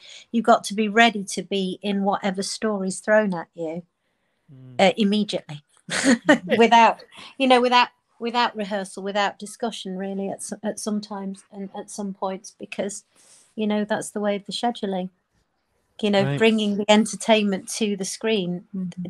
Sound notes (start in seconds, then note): 6.0 laughing